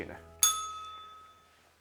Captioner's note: bell rings